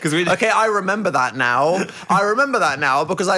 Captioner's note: chuckles